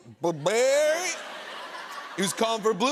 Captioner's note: laughter